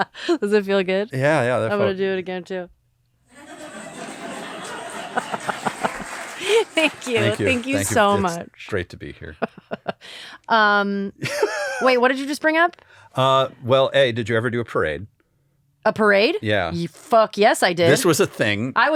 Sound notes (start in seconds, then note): 3.3 laughter